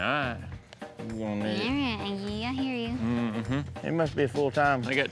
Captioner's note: grumbling